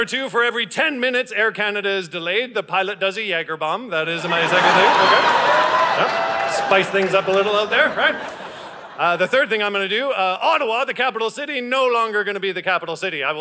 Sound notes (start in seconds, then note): 4.1 audience laughing